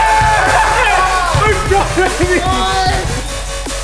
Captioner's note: player murmurs; upbeat techno music